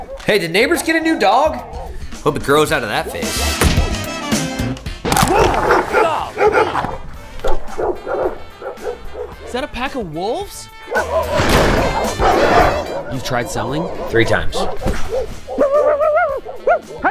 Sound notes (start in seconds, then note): 0.0 dogs barking; 5.3 dogs barking aggressively; 7.5 dogs barking; 10.7 dogs barking; 16.3 mimics barking